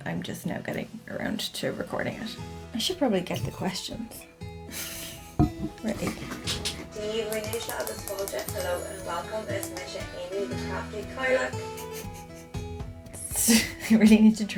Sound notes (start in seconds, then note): 4.7 laughs; 10.6 repeated mouse clicks; 11.4 laughs